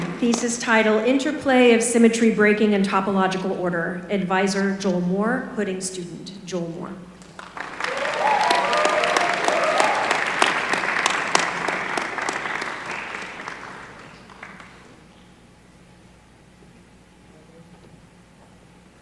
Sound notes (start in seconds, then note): 7.2 applause